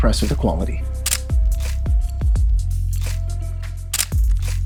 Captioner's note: camera clicks